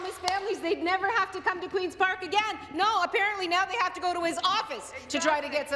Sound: some Applause

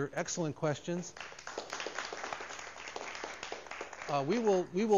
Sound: applause

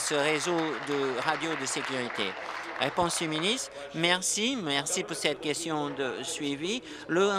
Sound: applause

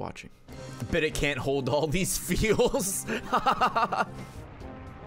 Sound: laughs

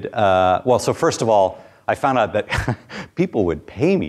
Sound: chuckles

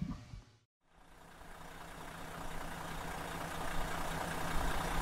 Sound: engine roaring

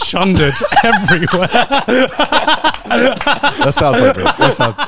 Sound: everyone laughs

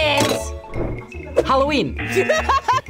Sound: klaxon sounds; bell dings; klaxon sounds; laughing

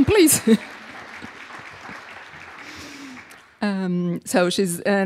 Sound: audience applauding

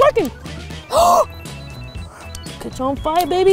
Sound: gasping

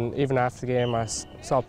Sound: sounds of football

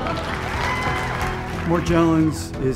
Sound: applause

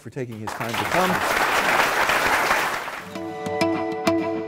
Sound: applause

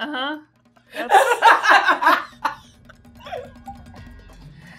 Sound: gamers laughing

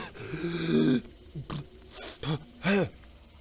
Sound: cough; gasps

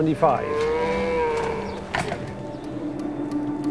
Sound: cow mooing; pensive music

